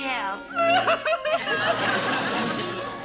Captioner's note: sobs